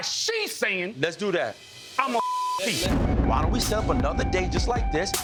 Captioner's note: beep